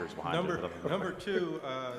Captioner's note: laugh